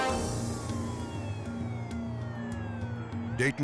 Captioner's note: dramatic air whoosh; sirens blaring